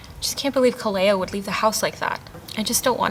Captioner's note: none